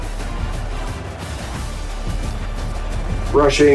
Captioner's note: crowd Noises